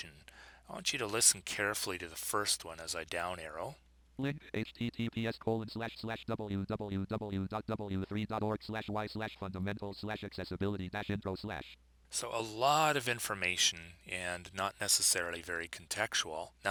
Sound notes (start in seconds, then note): 3.9 synthesized speech